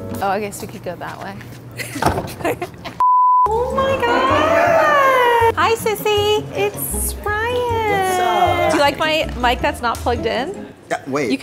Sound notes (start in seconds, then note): 2.1 laughs; 2.5 test pattern beeps